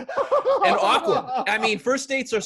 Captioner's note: laughing